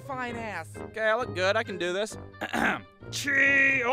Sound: clears his throat

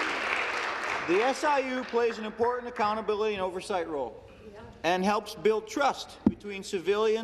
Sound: applause

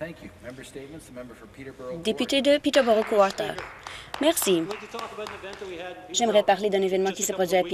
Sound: applause

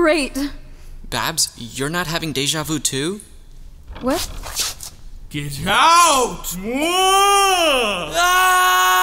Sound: yells

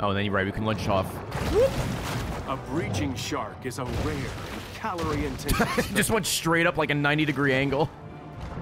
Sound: laughs

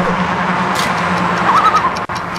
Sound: loon calls

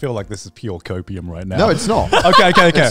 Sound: laughing

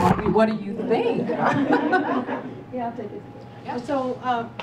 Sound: laugh

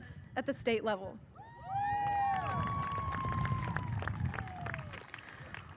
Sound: audience cheers

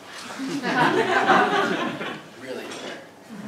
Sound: laugh

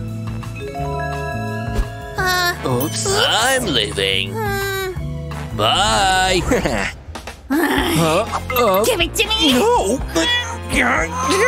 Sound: making irritated sounds

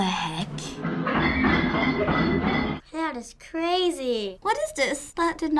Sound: pots banging

